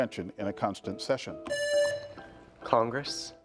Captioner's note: presses buzzer